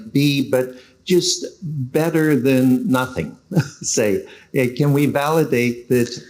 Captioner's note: laughs